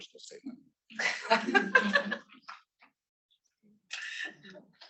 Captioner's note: students laughing